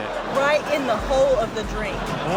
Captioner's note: audience laughs